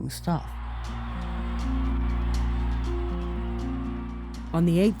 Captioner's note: crowd cheering; soft uplifting music